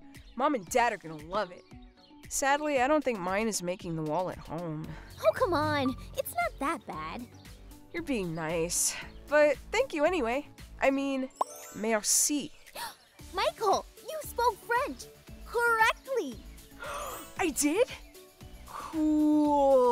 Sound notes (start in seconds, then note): 16.8 gasping